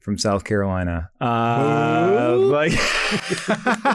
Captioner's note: laughs